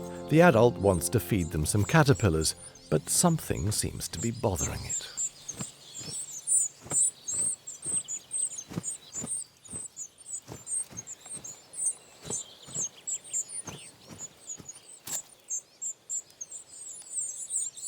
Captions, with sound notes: The adult wants to feed them some caterpillars, but something seems to be bothering it. [bird chirping]